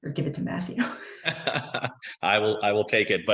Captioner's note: group laughing